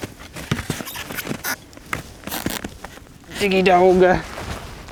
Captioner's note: skis squeaking